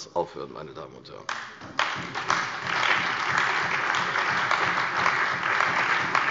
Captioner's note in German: Beifall bei der CDU und dem BÜNDNIS 90/DIE GRÜNEN